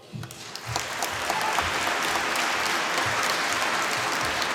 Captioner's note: applause